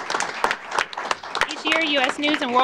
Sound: applause

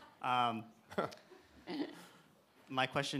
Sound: Dean chuckles

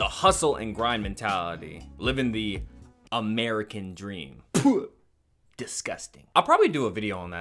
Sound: spits

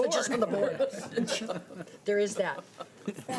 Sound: laughter

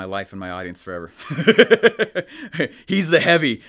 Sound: laughing

